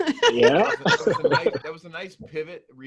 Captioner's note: laughing